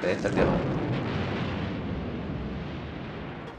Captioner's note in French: Boum